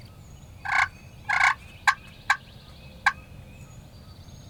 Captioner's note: turkey call